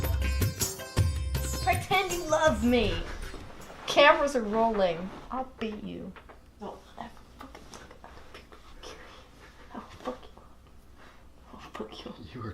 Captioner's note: whispering